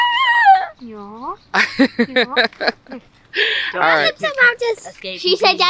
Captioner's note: excited kid noises